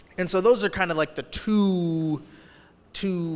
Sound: none

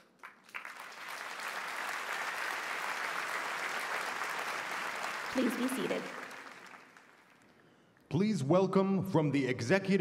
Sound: a p p lause

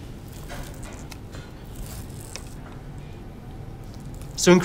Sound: utensils clanking

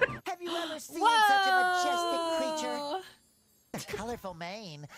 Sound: gasp

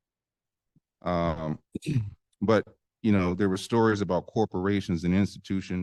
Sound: clears throat

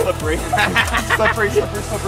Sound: laughing

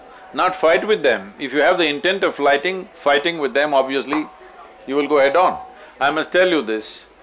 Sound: gestures – claps hands

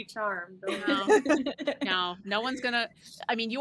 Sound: players laughing

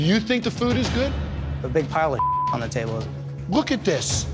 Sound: beep

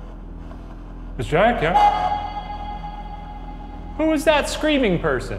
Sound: feedback sound

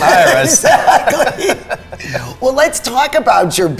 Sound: laughing

